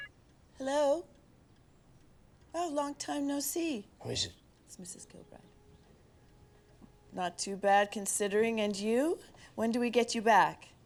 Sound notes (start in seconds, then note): 3.3 Paul whispering; 4.5 Jane whispering